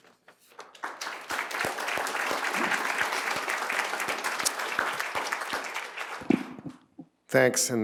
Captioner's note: applause